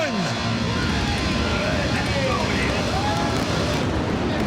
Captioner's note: engines revving